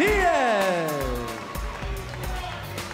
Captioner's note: bell ringing